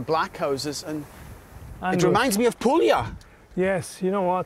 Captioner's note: with Italian accent